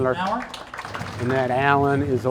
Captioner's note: crowd applaudes